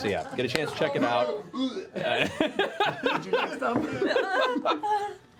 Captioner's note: vomiting noises